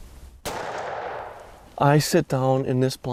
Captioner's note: gunshot rings